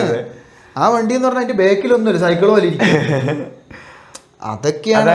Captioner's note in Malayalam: പൊട്ടിച്ചിരി